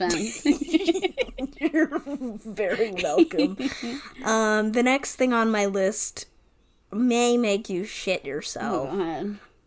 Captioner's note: laughing